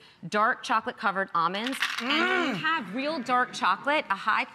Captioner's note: audience titters